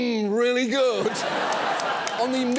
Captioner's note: studio audience laughs